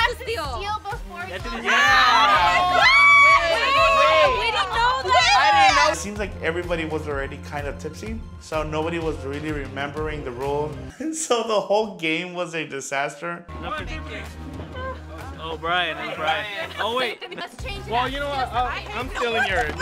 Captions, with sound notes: - You have to steal before you open. (all exclaiming) - Wait, but didn't know that! - I didn't know that! - It seems like everybody was already kind of tipsy, so nobody was really remembering the rules. So the whole game was a disaster. - Oh, Bryan, Bryan. - Oh, wait. - Well you know what, I'm stealing yours.